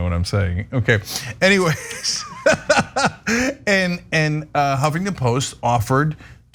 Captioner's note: laugh